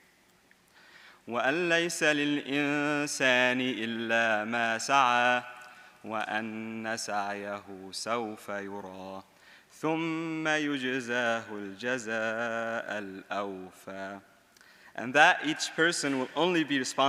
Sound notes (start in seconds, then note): 2.0 speaking in Arabic